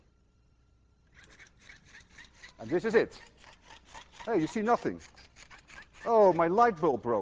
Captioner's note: device ratcheting